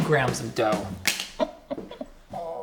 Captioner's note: plastic clacking